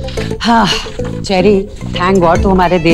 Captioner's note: Sighs